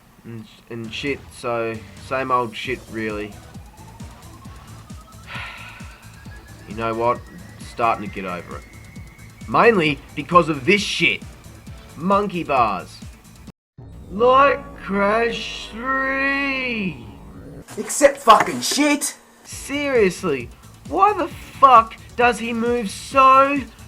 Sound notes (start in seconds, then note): 5.1 sigh